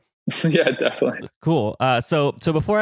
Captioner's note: laughs